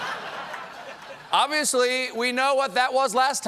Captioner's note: laughter